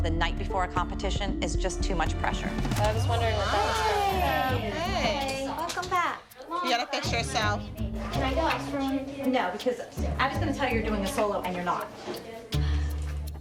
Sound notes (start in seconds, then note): 2.5 chatter